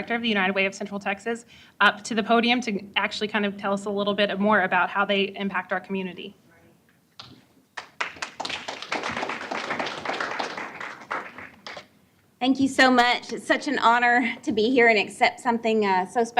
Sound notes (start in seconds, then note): 7.7 applause